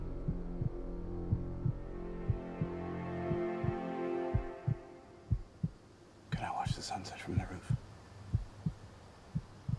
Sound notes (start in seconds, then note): 2.0 heart beats continues